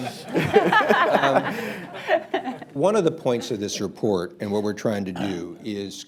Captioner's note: laughter